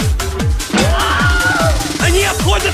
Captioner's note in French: Cri de Wilhelm